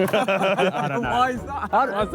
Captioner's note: Sidemen laugh